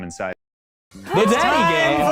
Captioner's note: the rest gasping